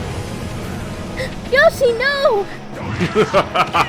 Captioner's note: gasp